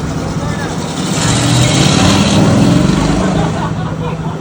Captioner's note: car engine revving; people laughing